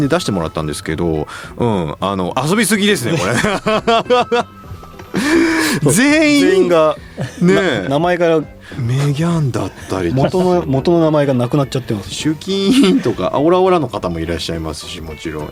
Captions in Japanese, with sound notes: [笑い] [息をのむ音] 全員 全員がね 名前が メギャンだったりとか 元の元の名前がなくなっちゃってます。 集金とかオラオラの方もいらっしゃいますし、もちろん。えっと、いや、これは遊びすぎだろう。一